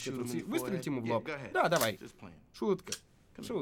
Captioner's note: gun cocks